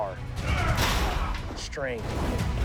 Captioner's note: Arthur grunts